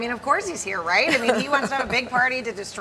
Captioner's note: laughter